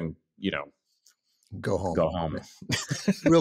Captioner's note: laughs